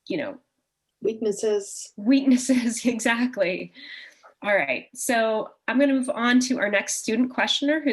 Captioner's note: chuckle